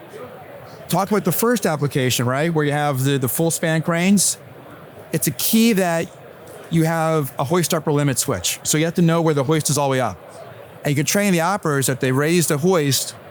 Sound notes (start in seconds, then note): none